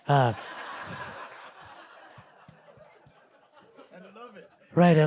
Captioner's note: audience laughing